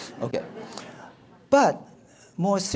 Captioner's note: audience laughs